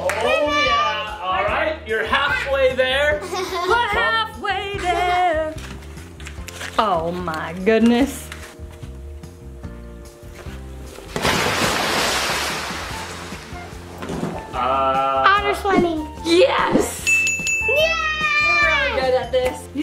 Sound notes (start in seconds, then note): 11.0 water splashes